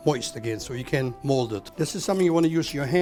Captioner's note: utensils clatter